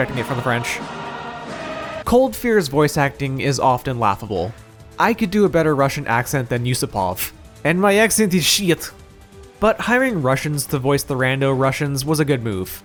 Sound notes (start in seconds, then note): 7.6 bad Russian Accent